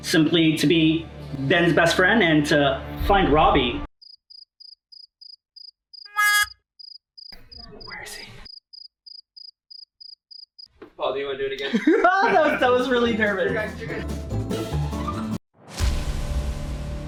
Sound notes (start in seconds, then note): 4.1 crickets; 8.0 whispers